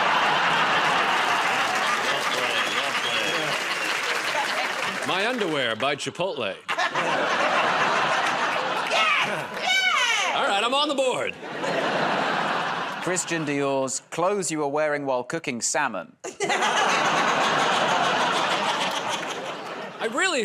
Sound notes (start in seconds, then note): 0.0 laughter, applause; 6.6 laughter; 16.2 laughter